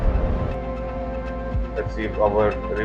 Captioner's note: explosion